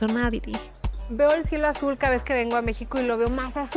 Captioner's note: speaking Spanish